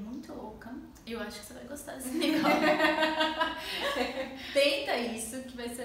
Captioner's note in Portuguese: risos